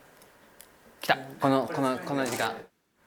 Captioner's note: click, click, click